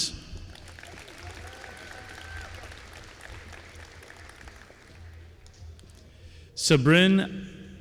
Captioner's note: applause